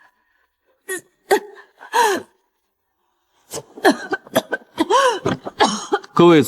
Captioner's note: cough cough cough cough